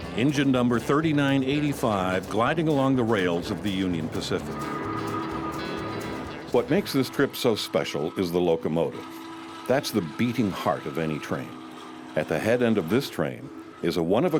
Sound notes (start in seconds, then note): 5.5 train honking